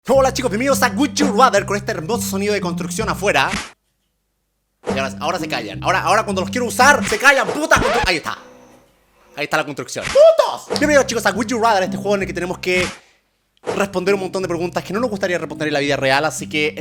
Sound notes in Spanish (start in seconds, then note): 7.5 sonidos de construcción